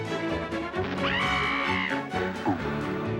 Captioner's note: elliott growls; screaming